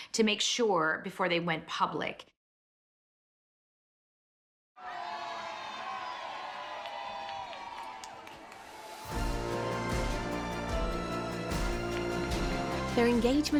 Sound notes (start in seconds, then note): 4.8 crowd cheering; 4.8 crowd applauding; 9.1 enthusiastic music